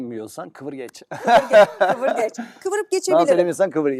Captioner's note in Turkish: kahkaha